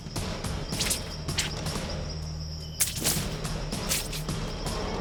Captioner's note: suspenseful music continues; blade whooshing